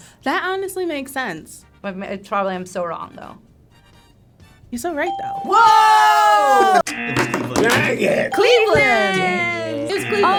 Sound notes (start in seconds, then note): 5.1 ping; 6.8 buzzer buzzes